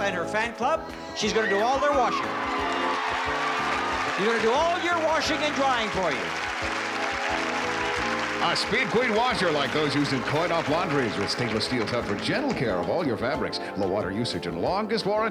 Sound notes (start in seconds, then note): 1.5 cheering